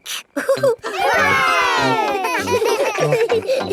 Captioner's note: chuckles; laughing